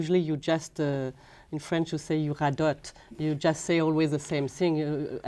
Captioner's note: speaking French